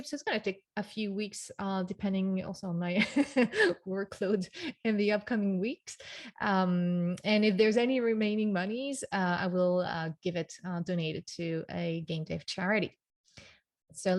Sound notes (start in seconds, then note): 3.0 giggles